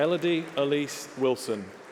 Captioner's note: applause